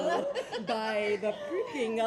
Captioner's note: laughs